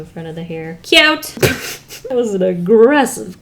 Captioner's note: laughs